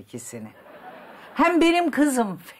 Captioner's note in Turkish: Gülme efekti